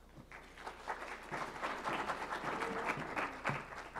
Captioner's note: applause